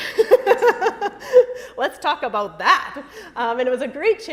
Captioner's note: laughter